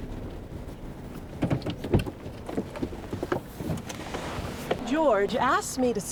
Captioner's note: car door rattles